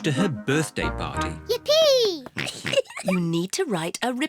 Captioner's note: giggles